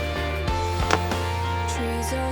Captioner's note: crack!